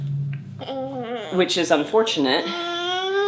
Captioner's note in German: gurrt